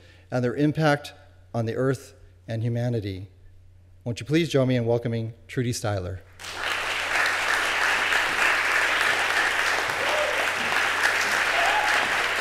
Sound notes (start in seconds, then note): 6.3 applause